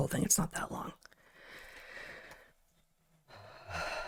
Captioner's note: breathing Heavily